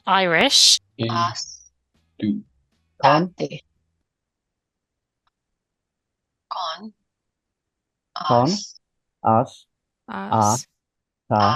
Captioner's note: Speaking Irish